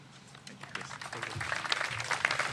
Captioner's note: applause